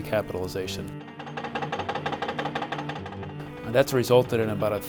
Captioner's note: construction noises